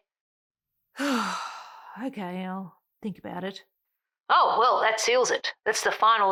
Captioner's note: sigh